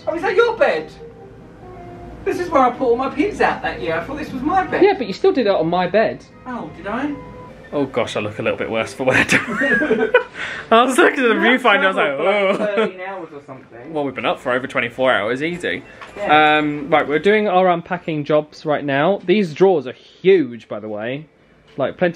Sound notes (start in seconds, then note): 9.1 laughing